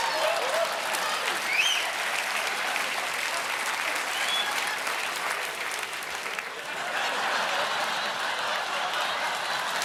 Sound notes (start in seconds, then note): 4.3 cheers and applause; 6.6 laughter